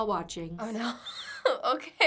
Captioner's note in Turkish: kıkırdar